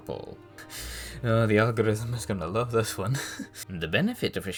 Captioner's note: chuckle